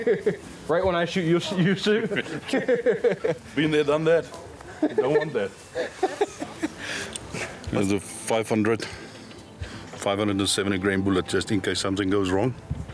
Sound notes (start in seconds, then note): 0.0 laughing; 1.9 laughing; 5.7 laughing